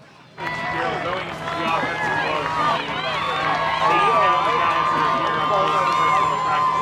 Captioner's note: crowd cheering